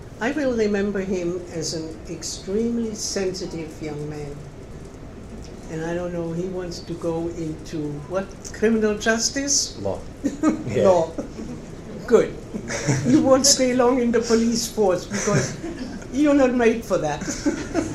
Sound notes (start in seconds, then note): 10.2 laughs